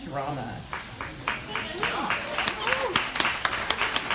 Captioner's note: audience applauds